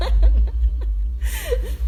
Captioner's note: Gabby laughs